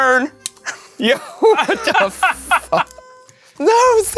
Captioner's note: laughs